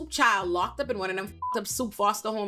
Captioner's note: beep